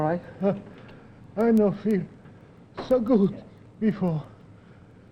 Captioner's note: gasps